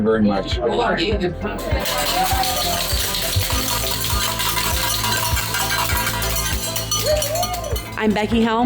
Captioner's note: bell ringing